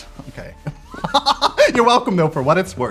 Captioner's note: laughs